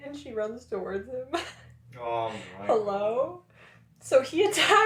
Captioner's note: laughter